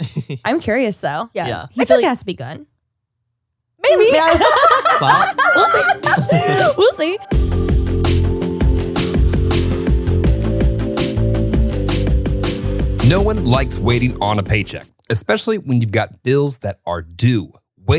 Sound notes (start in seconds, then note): 4.1 all laugh; 6.3 upbeat music